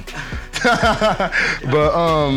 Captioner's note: laughs